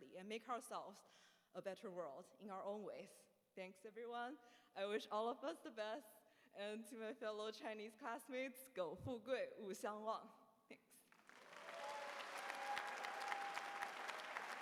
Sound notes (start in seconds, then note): 8.7 speaking chinese; 11.1 applause